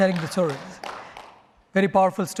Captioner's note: applause